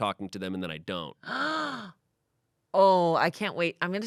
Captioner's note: Amanda gasps